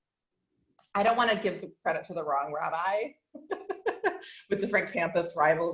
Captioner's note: laughs